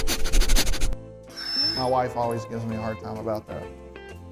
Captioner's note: sniffing